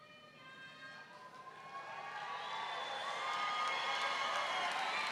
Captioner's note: audience cheering